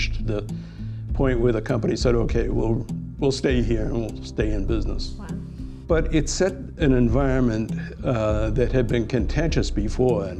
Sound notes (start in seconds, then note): none